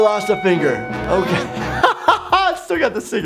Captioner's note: laughing